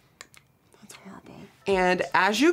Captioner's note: whispers